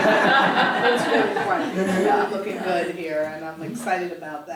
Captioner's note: laugh